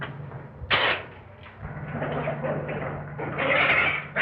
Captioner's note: cats hissing, screeching